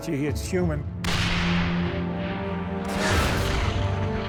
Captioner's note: cannon firing; shell exploding